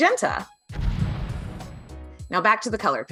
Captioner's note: graphics boom